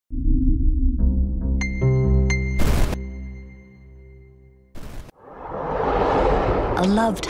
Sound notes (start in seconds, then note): 0.1 suspenseful music; 2.7 electricity crackling; 5.1 eerie music